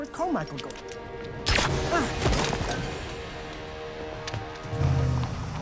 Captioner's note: tranquilizer gun fires